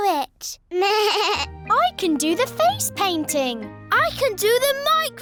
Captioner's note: bleats